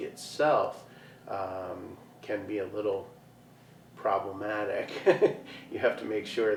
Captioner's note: chuckles